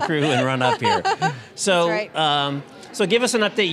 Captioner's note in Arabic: يضحك